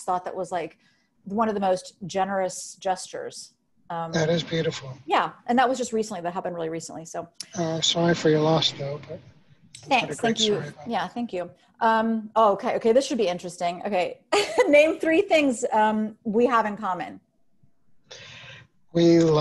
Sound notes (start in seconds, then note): 15.3 laughing